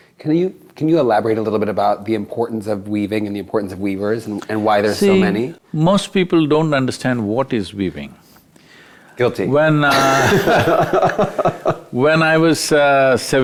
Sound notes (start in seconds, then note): 9.9 both Laugh